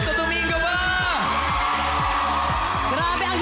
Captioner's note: crowd cheering